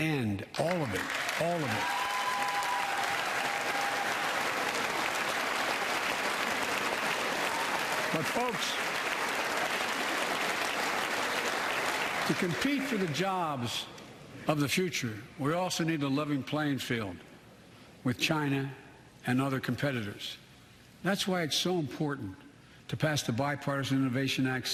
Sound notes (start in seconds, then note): 4.6 applause